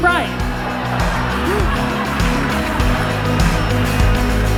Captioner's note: crowd laughs; upbeat music